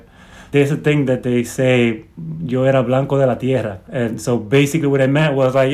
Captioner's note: speaking Spanish